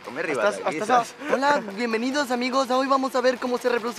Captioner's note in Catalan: amb accent llatinoamericà